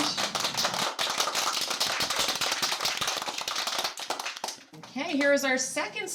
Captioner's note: applause